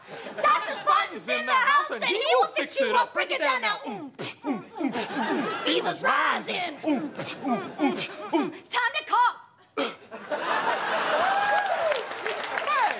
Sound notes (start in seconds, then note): 3.9 beatboxing; 6.8 beatboxing; 9.6 Craig coughs; 10.1 audience laughs and claps; 10.7 audience member cheers